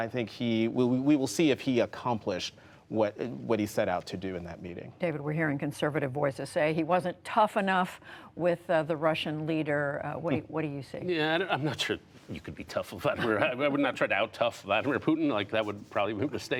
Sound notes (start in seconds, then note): 13.1 laughter